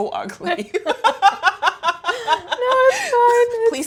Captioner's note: both laughing